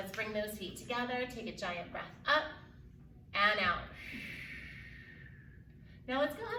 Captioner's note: exhales deeply